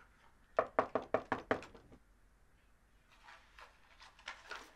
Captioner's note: knocking on door